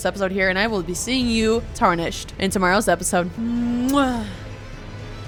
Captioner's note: kiss